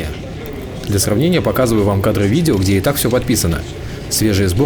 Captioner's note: in Russian